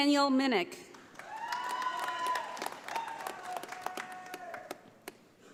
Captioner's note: audience applauding